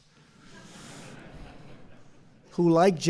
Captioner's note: laughter